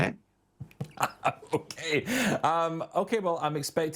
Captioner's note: laughs